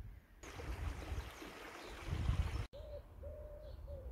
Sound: water splashing; wood pigeon cooing

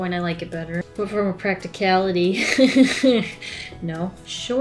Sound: laughs

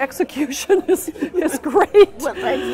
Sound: laughs

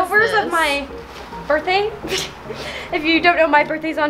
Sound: giggles

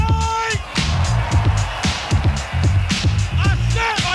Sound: crowd roars back

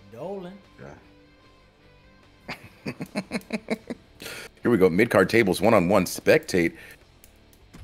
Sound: laugh

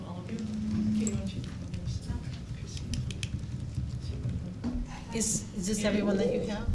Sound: microphone giving feedback

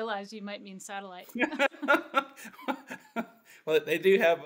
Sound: laughs

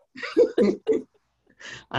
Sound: laughter

